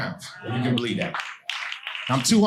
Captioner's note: audience applauding